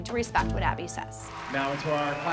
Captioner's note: applause